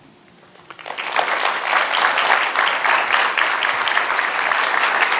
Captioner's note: applause